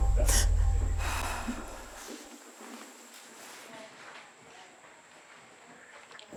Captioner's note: crying